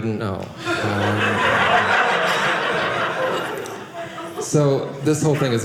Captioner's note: audience laughing